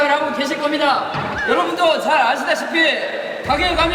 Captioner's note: laughs